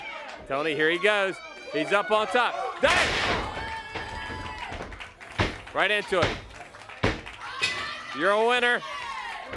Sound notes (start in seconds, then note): 0.0 crowd cheering; 4.4 crowd cheering; 9.3 crowd cheering